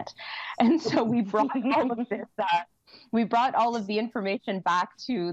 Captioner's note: laughter